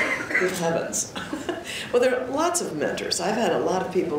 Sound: chuckles

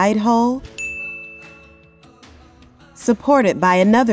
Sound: bell Rings

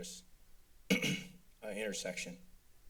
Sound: clears throat

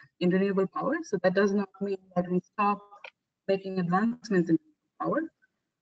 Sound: audio static; audio static

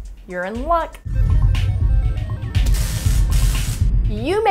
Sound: electronic beeping

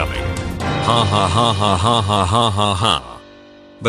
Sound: laughing

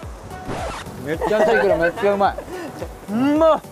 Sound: haha

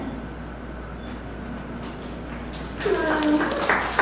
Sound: attendees clapping

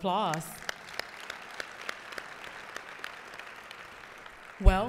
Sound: applause

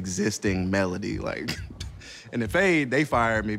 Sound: chuckles

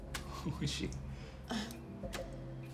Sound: laughing; sighs

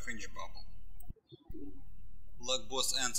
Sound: birds chirping

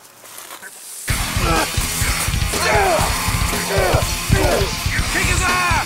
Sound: heavy metal music; fighting sound effects

